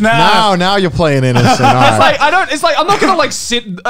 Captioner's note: murmurs